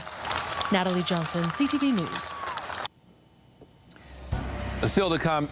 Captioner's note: applause